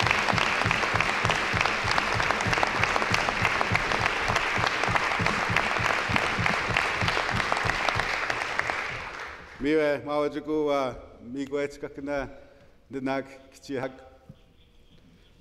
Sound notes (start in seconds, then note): 3.6 some Applause